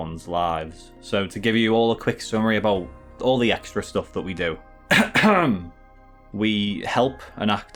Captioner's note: cough cough